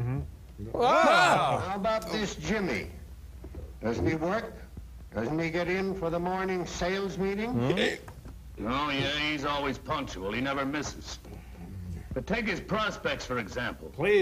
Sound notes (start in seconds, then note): 0.7 all exclaim